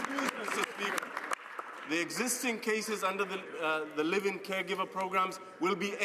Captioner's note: some Applause